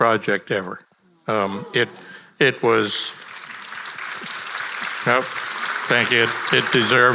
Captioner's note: audience applauding